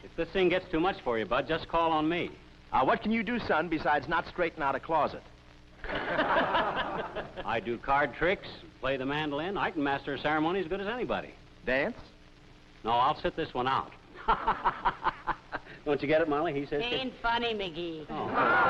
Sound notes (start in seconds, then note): 5.8 laughter; 14.1 laughs